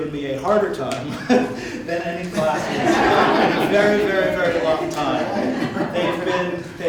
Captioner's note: laughter